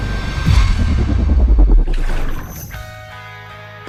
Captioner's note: ringing and splashing impact